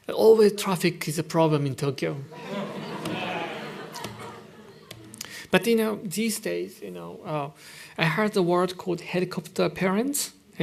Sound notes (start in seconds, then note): 2.3 laughter